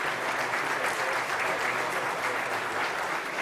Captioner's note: applause